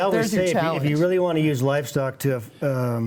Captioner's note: laughs